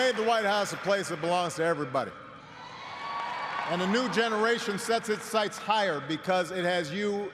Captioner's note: cheers and applause